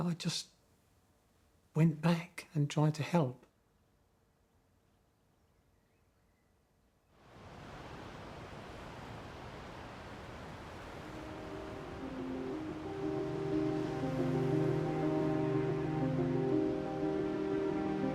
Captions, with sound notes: I just went back and tried to help. [waves crashing] [brooding music]